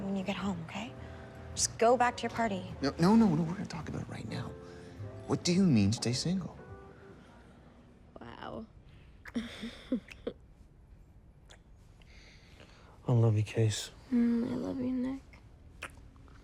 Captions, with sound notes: WE'LL TALK ABOUT IT WHEN YOU GET HOME, OKAY? JUST GO BACK TO YOUR PARTY. NO, NO. I WANT TO TALK ABOUT IT RIGHT NOW. WHAT DO YOU MEAN, STAY SINGLE? WOW... [GIGGLES] I LOVE YOU, CASE. MM, I LOVE YOU, NICK.